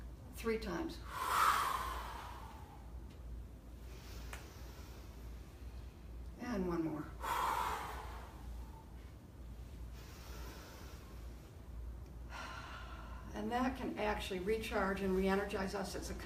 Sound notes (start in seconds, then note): 1.0 exhales strongly; 3.7 inhales strongly; 7.2 exhales strongly; 12.2 inhales